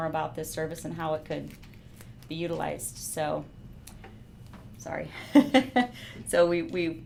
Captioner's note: laughing